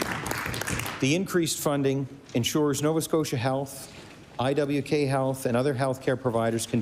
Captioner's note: applause